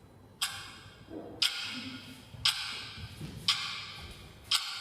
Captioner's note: sound of a ticking clock